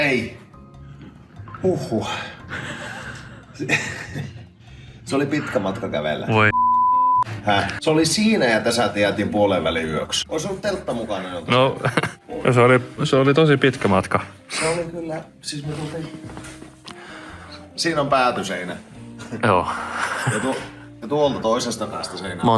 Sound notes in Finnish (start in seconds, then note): 11.6 naurahtaa